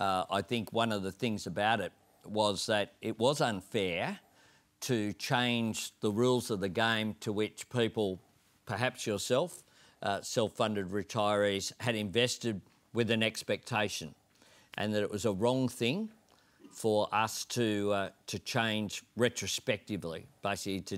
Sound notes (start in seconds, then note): none